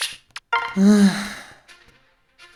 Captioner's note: deep Sigh